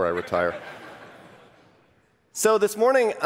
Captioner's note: laughter